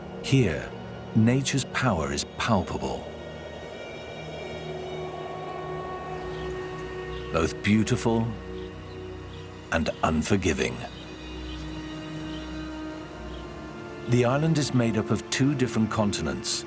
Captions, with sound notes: Here nature's power is palpable. [wind blowing] [birds chirping] Both beautiful and unforgiving. The island is made up of two different continents.